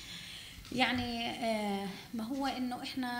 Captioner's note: speaking arabic